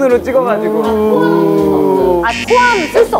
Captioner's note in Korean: 빗발치는 동료들의 야유